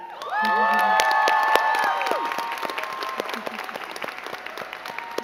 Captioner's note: crowd cheering and clapping